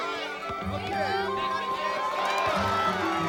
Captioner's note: cheering and shouting